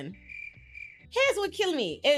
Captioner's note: crickets chirping